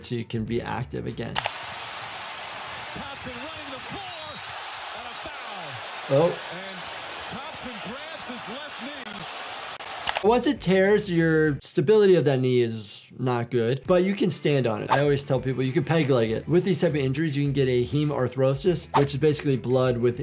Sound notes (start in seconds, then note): 1.3 video clicks; 1.6 crowd roars; 4.0 whistle tweets; 10.0 video clicks; 14.9 audio whooshes; 18.9 audio whooshes